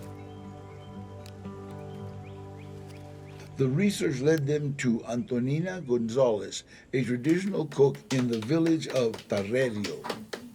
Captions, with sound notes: [in English] The research led them to Antonina González, a traditional cook in the village of Tarerio.